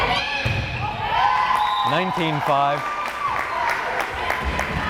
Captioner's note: crowd cheering